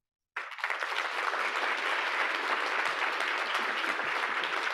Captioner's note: audience applauding